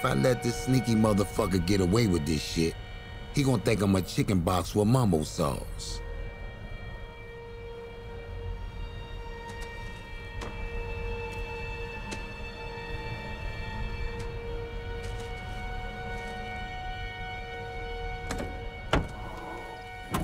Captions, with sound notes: If I let this sneaky motherfucker get away with this shit, he gon' think I'm a chicken box with mambo sauce. (low tense music continues) (bricks of cocaine crunching) (trunk popping)